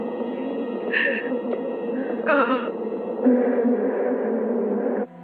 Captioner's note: panting